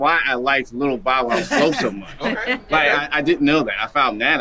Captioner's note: group chuckling